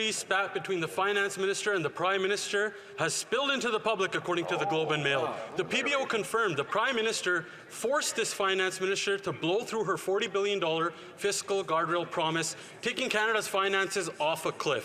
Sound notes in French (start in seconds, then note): 2.4 voix de l'interprète